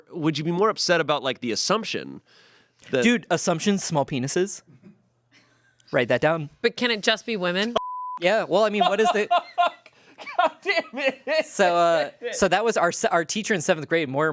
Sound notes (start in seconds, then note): 7.8 beep; 8.6 laughs